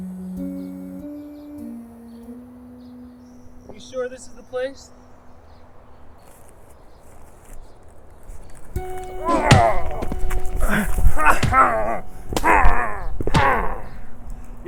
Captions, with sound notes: (mysterious music) Are you sure this is the place? (fists thudding)